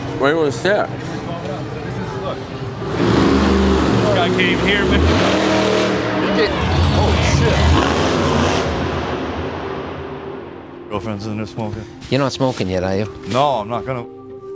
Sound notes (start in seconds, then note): 2.5 engine roar